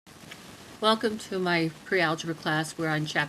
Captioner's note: voiceover